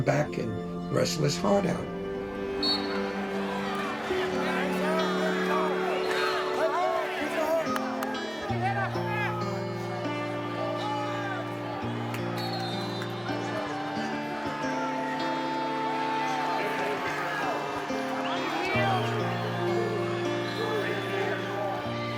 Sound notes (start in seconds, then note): 2.5 referee's whistle; 20.4 announcer's voice